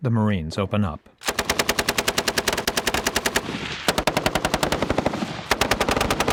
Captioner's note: gunfire